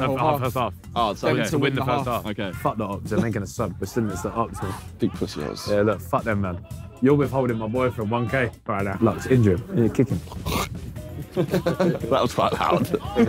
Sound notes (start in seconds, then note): 10.1 coughing; 11.1 all laughing